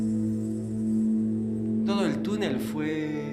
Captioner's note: speaking Spanish